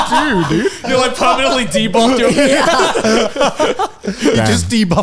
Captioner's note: laughing